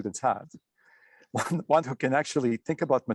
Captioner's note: chuckles